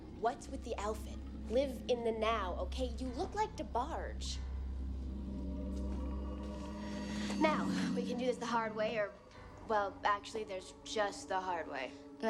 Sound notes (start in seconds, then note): 4.6 vampires growling